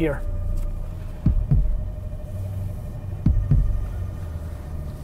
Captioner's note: faint heartbeating